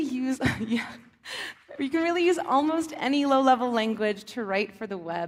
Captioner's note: laughs